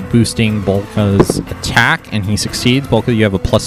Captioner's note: die rolls